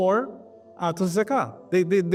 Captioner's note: Arabic